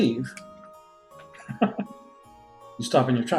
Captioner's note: laughs